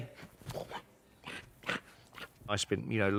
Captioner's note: grunting and snorting